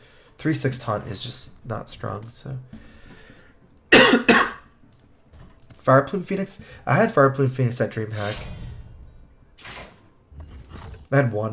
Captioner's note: cough cough